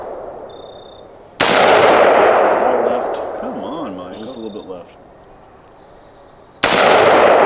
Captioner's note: gunshot